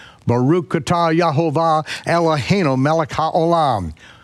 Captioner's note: speaks Hebrew